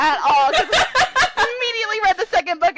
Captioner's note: laughter